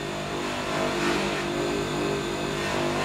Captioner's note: machine whirrs